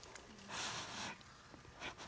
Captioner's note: sniffles